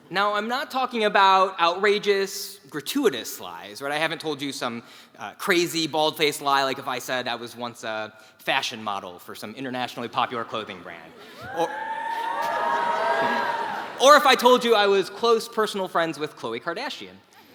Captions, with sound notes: Now, I'm not talking about outrageous, gratuitous lies. What I haven't told you some crazy, bald-faced lie like if I said I was once a fashion model for some internationally popular clothing brand. [LAUGH] >> Or if I told you I was close personal friends with Khloe Kardashian.